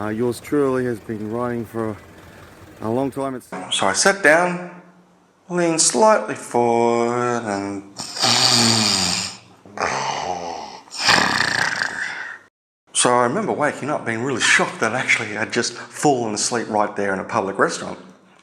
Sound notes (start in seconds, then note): 12.8 snoring